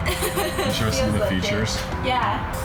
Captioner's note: laughs